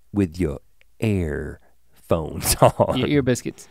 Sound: chuckles

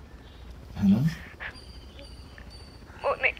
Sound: weeping

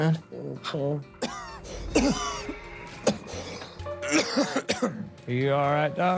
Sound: Holliday coughs

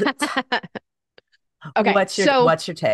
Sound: laughing

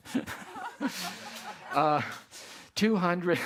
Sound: all laugh

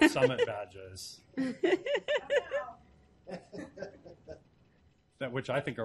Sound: laughing

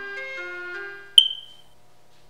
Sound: smoke Alarm Chirps

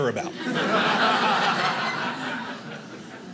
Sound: audience laughing

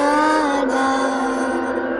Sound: strange voice

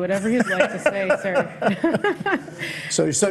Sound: both laughing

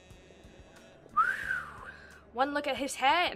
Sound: low whistle

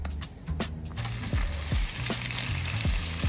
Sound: sizzling

